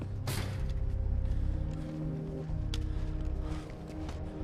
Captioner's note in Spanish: respiración pesada